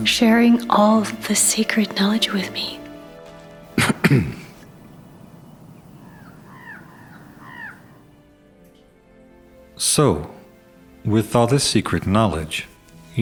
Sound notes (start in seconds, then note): 3.7 Varlahm clears his throat; 6.3 birds squawk